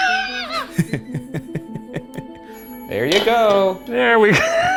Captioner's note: squeals; eerie music; laughs; laughs